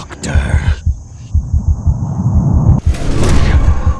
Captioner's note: rushing blood and ringing